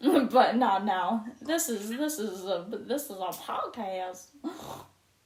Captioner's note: said weirdly then snorts